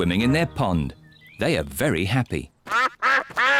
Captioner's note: ducks quack